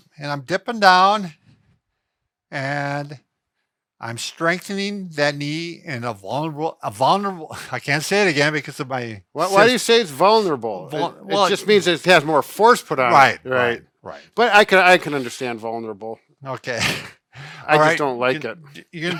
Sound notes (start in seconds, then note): 16.8 chuckling